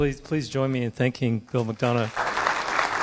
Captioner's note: clapping